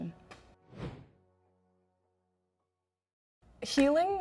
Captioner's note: wind whooshes